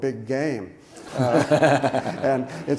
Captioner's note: audience laughs; laughs